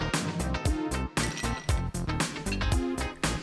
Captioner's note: ice clinking